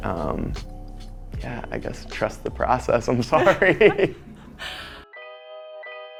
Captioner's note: laughs